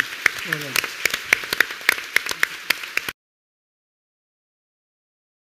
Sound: audience applauding

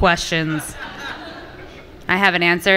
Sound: audience laughing

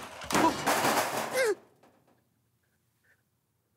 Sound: crashing

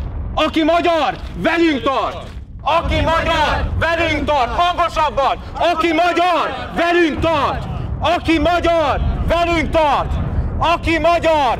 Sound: they start marching, chanting “True Hungarians come with us!”

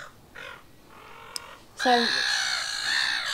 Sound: seagulls squawking

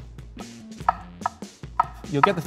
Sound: knife chopping

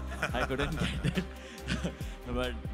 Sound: laughs

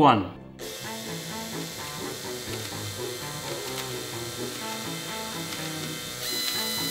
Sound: light music; drill whines

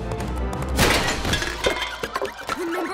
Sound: clattering

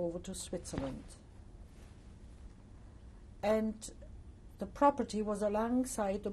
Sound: pauses for 3 seconds

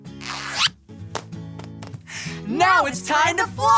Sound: light playful music; zip rasping

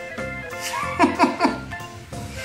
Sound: giggles

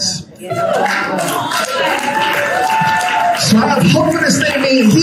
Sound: congregation applauding

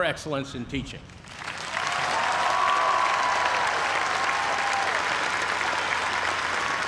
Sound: cheers and applause

